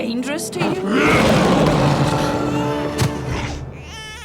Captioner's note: roars